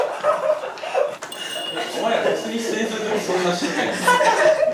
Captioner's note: falls to the ground, laugh-crying